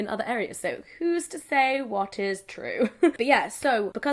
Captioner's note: laughs